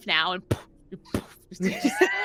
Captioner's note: imitating thudding